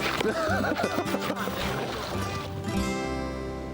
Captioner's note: both laughing